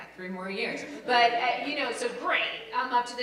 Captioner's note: laugh